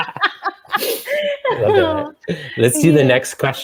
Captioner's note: laughter